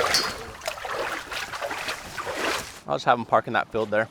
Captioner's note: water sloshing